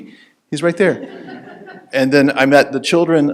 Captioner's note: audience laughing